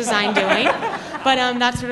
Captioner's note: laughter